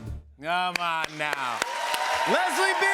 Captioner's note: cheers and applause